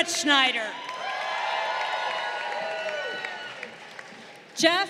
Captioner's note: crowd cheering